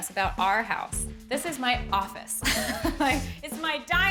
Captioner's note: laughs